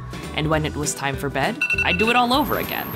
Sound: alarm beeping

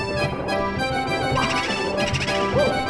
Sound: quirky music; Mario shouts

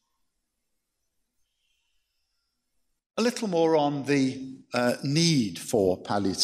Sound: none

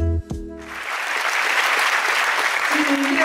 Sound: audience applauding

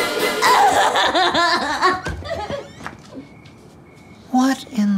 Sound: sobs

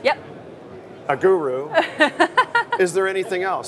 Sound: laughs

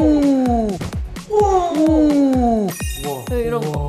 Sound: exclaiming

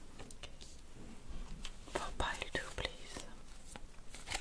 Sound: whispered

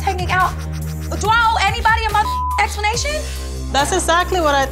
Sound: beep

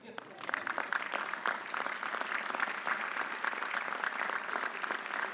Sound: audience applauding

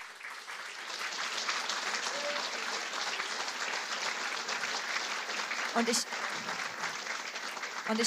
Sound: applause

